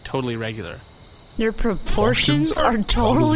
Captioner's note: in unison, echoing that back in stunned bewilderment